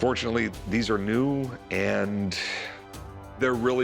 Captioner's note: exhales